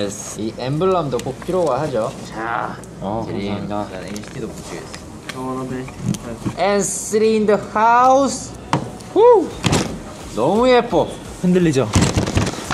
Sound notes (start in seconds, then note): 9.6 bang; 11.9 bang, Bang, Bang